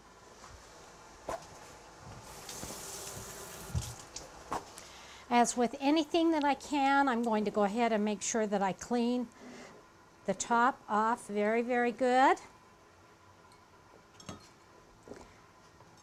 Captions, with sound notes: [paper towel rip] [faucet running] As with anything that I can, I'm going to go ahead and make sure that I clean the top off very, very good.